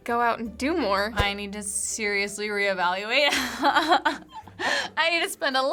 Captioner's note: laughs